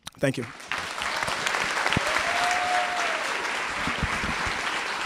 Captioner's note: applause